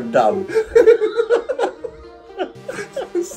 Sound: both laughing

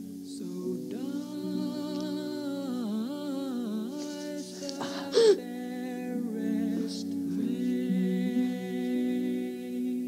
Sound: Juliet gasps

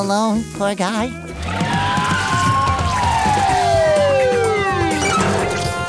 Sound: siren blaring

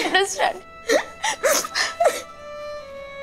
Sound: girls sobbing

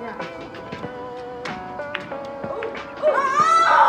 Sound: pool balls clink

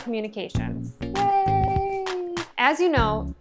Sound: hands clapping

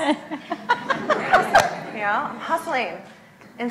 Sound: laughs

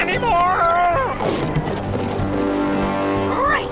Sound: thump

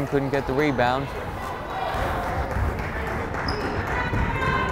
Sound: crowd cheering

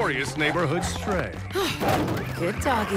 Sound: sighs; thud; sirens wailing

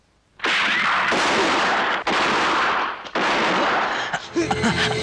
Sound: gunshot

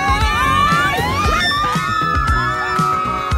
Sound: screams

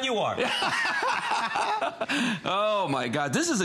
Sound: laughter

